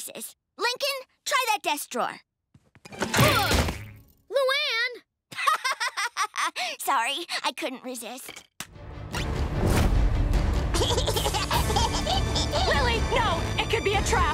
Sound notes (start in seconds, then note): 5.4 laughing; 10.7 giggling